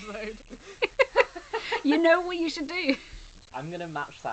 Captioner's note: laughs